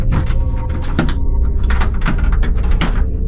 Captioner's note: door locking